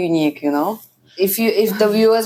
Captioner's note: laughs